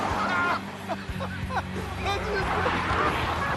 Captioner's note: laughter